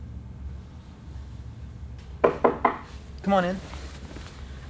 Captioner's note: knock at door